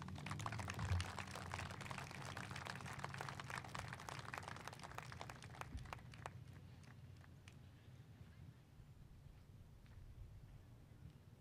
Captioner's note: applause